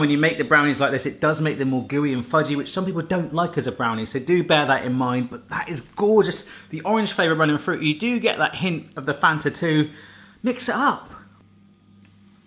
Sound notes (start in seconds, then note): none